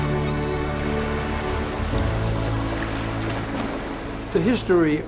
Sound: seagulls squawking; waves splashing

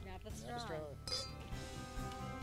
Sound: glasses clink; upbeat music

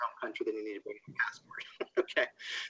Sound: laughs

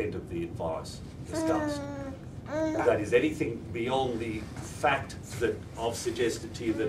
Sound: baby noises

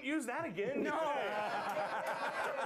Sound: laughter

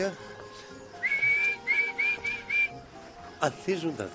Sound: imitating bird sing

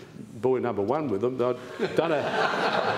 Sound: laughter

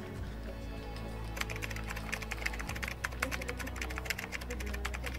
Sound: keyboard clicks

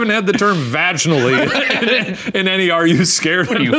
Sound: laughing

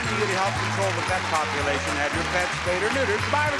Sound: audience cheers

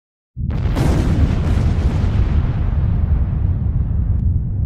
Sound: fire rumbling

